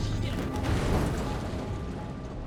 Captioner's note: crashing